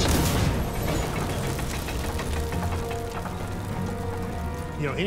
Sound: fire crackling; tanks rumbling

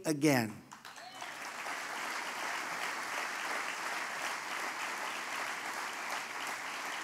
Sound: applause

